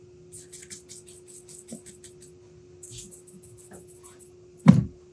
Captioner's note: paint bristles swishing; box thudding